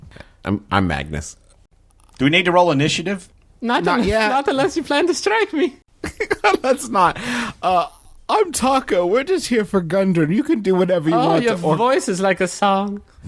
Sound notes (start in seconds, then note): 6.0 laughing